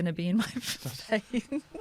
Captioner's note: laughter